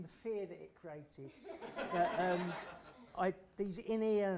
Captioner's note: laughter